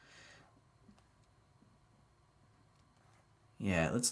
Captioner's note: computer mouse clicking